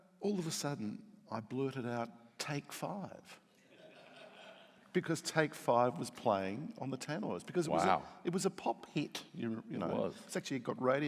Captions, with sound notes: All of a sudden I blurted out take five (audience laughing) because "Take Five" was playing on the tannoys, because it was a pop hit. - Wow, it was.